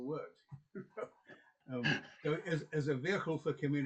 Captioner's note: chuckles